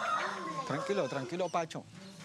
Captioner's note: Spanish spoken audio